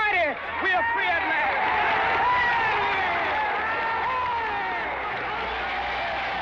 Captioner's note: crowd cheers